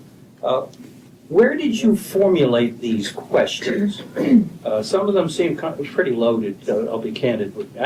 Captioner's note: clears throat